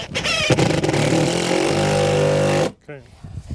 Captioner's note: drill whirring